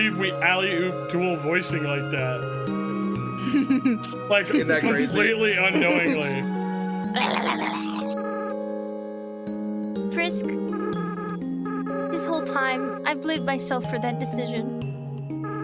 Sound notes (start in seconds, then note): 3.4 laughs; 7.1 growls